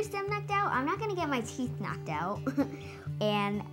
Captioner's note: laughs